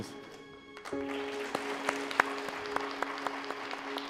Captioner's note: clapping